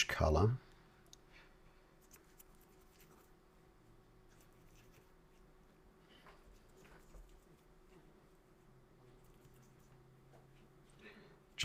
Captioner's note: silence